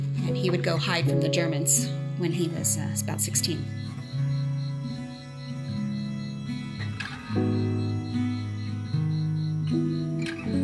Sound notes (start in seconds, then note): 3.9 somber music; 5.5 crickets